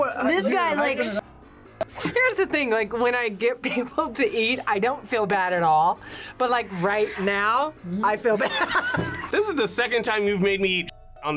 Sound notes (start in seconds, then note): 8.6 laughs